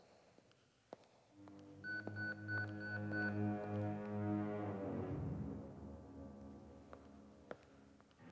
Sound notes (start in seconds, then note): 1.8 pager beeps